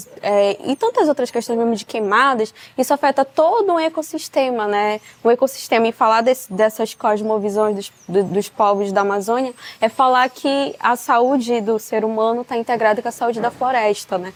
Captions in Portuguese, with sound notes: em tantas outras questões, mesmo de queimadas, [som de pássaros] isso afeta todo o ecossistema. [som de pássaros] E falar dessas cosmovisões dos povos da Amazônia é falar que a saúde do ser humano está integrada com a saúde da floresta.